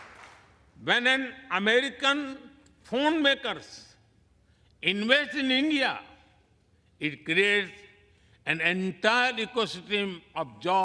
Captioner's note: applause